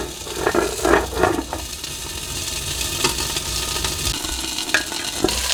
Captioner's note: sizzling continues